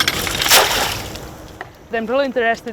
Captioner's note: water splashing